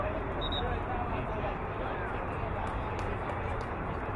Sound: whistle blowing

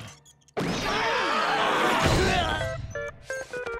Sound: grunting

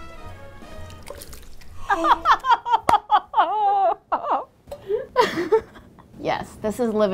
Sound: wet plopping; laughing

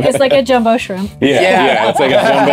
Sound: group laughs

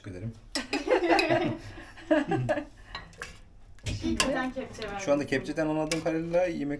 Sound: laugh

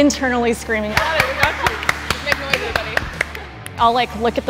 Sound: applause

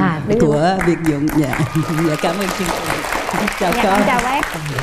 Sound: audience applause

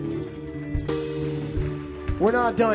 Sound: audience applauds

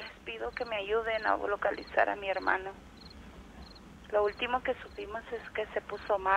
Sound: recording of women speaking Spanish

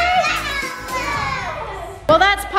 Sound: cheering

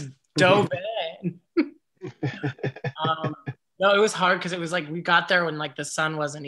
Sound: laughs

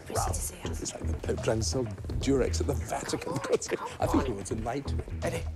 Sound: editors chattering

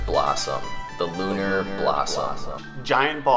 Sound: echoes

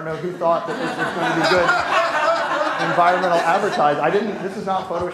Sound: laughter

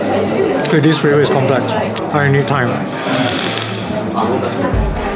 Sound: long breath

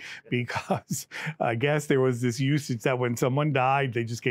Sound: laughs

